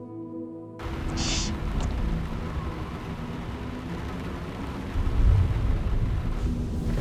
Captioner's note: crying